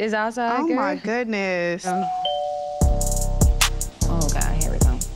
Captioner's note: bell ringing